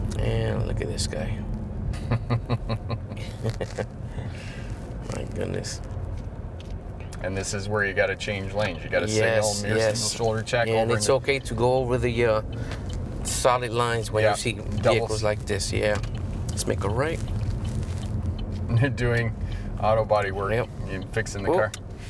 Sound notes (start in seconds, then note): 1.9 laughing